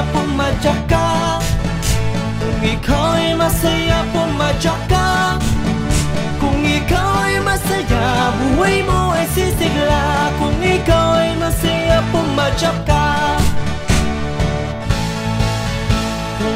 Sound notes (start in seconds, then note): 1.4 stomping sound; 5.3 stomping sound; 13.3 stomping sound